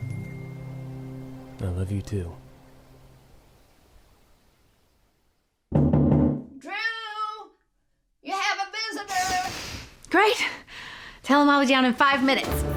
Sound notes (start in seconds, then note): 5.7 knocking on door